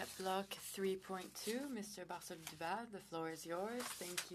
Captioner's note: speaking French